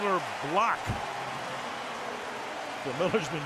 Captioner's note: cheering